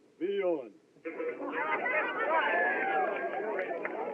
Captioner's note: chattering, Cheering